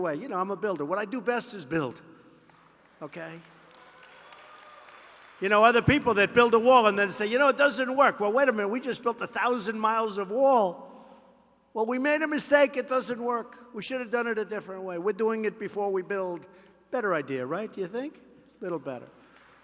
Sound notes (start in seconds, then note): 2.5 applause